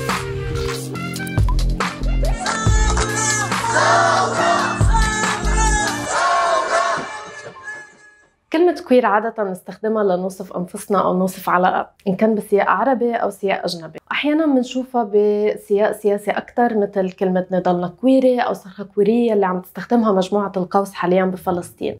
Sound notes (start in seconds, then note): 2.4 women chanting the word "revolution"